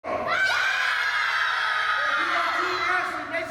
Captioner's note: children yelling